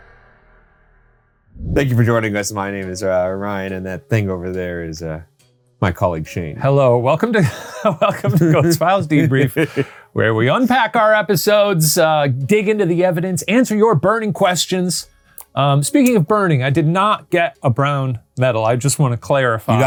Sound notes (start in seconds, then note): 1.5 screen whooshing; 7.3 laughing; 7.4 laughs